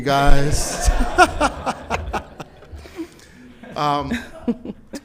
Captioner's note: everyone laughing